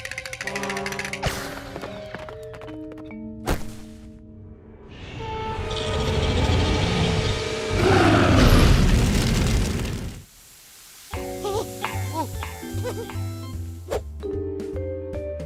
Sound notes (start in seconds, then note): 4.6 growling; 7.6 roars